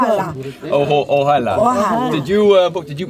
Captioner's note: speaking in a foreign language